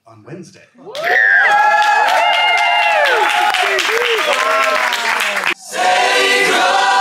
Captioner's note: crowd cheering and applauding